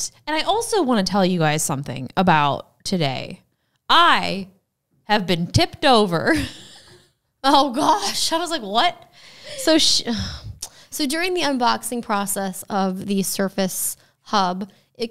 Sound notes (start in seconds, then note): 6.6 laughs